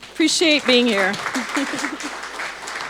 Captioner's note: audience applauding